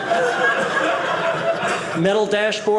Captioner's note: audience laughing